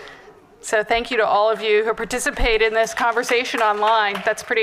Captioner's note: applause